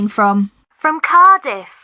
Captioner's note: on phone